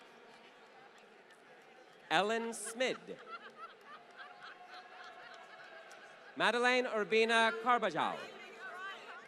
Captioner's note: laughter